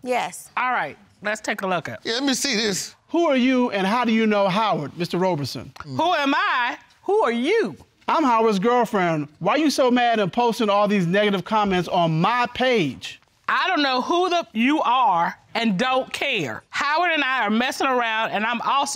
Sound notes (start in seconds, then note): 5.9 judge dana reading; 13.6 judge dana reading